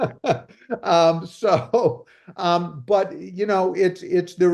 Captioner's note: laughs